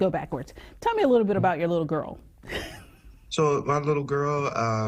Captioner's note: laughs